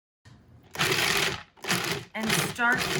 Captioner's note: appliance grinding